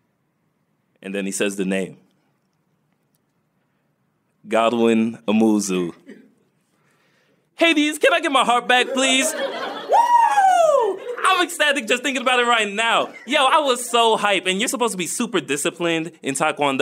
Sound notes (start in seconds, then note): 8.8 laughter; 9.4 shouts